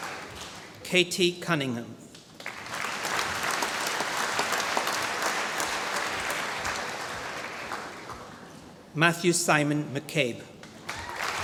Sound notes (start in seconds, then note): 2.4 applause